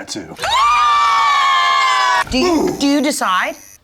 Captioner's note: people screaming